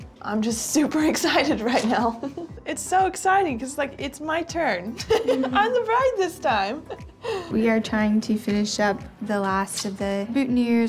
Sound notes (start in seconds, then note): 5.0 laughs